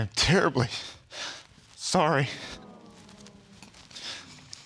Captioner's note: sniffles